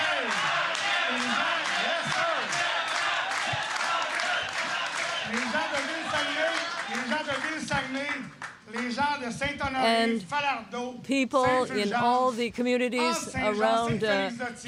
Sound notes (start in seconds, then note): 0.0 applause; 3.2 chanting